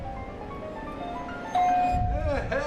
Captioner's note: doorbell ringing